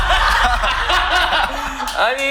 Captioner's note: bitter laugh